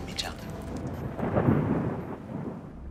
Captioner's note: thunder rumbles